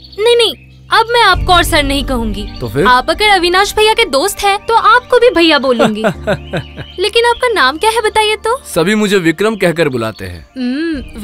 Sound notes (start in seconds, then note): 5.8 laughs